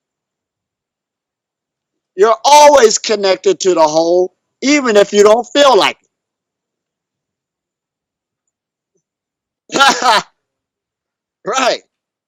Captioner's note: laughs